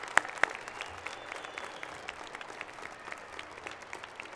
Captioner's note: cheers and applause